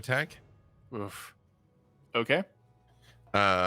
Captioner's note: grunts